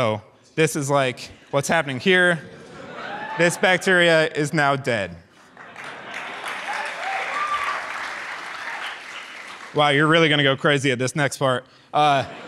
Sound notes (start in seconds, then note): 5.4 audience claps and cheers; 12.0 audience laughs